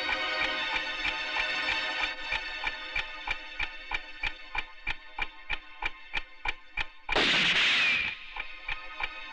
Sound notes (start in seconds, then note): 7.1 gun Firing